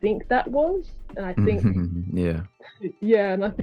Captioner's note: snickers